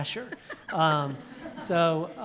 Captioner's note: laughter